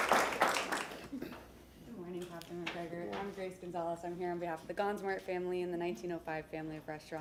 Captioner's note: applause